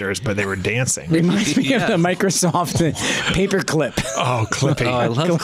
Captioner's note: laughs